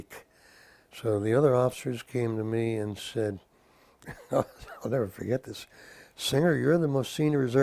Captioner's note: laugh